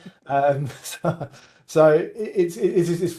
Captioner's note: both chuckling